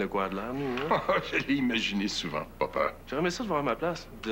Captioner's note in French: Rire